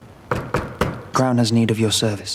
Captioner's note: knocking on door